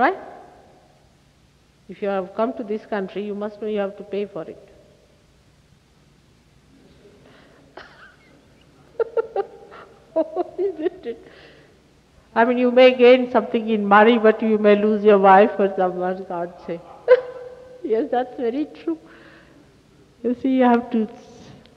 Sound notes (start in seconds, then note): 7.7 laughing